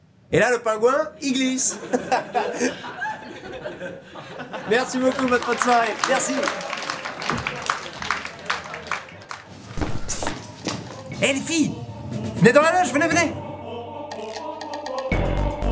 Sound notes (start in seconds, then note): 1.7 laughs; 4.7 applause